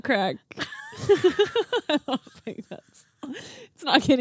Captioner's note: laughing